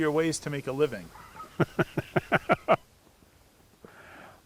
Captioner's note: laughing